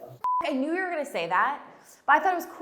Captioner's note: beep